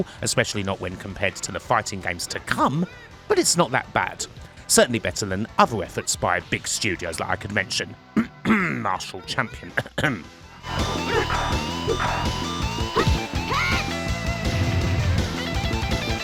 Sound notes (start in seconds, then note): 11.7 cough